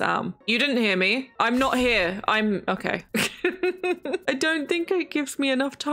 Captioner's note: laughs